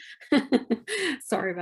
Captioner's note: laughs